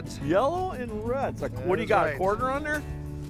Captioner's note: voiceover